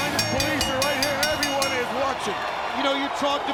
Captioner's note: bell dinging